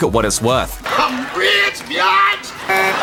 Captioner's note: honk honk